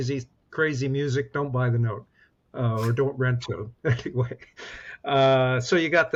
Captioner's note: laughs